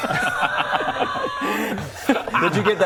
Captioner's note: entitled laughter